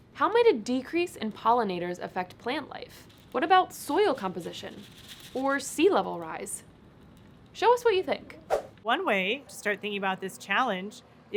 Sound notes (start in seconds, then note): 4.0 shaking sounds; 8.5 whoosh